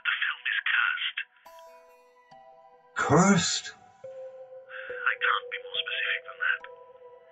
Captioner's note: on phone